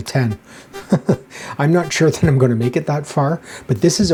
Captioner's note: chuckles